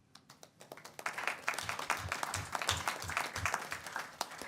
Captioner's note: audience applauds